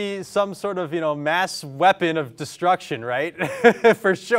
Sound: laughs

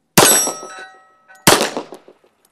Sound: bang; bang

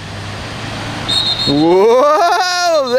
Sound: whistle blows

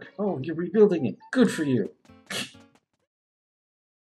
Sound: laughs softly

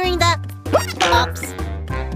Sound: hiccup; boing

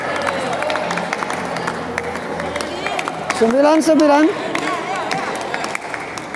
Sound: applause

